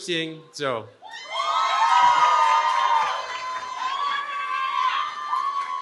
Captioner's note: cheering